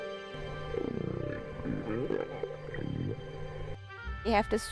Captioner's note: whales calling